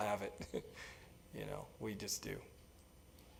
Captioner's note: laugh